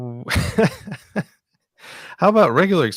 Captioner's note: laughs